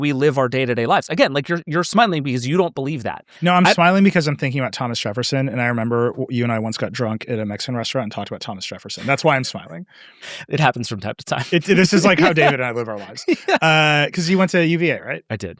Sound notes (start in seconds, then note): 9.0 laughing; 11.5 laughing